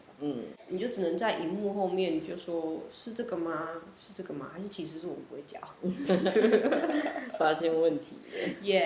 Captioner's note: laughs